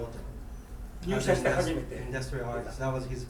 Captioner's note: speaking in foreign language